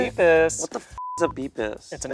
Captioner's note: beep